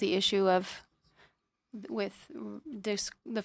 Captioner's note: speaking in French